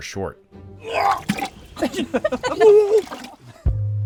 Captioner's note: retching noise followed by laughter